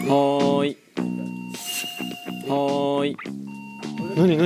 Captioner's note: suddenly the sound of the intercom?!